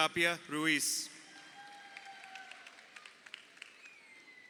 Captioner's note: crowd cheering